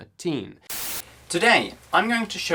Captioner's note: static